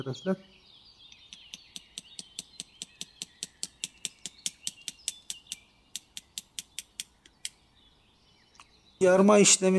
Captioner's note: the sound when we hit the knife with the blunt scissors